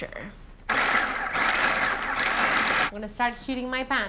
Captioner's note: whirring